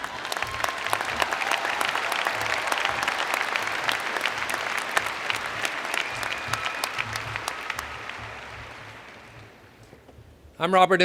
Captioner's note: cheers and Applause